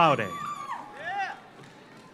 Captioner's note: audience cheers; audience applauds